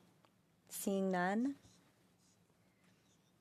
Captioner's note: speaking French